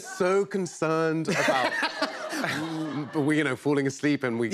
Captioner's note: laughter